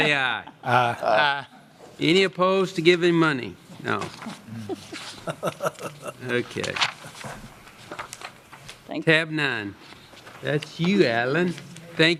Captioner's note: laughter